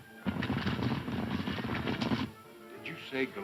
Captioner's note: galloping hooves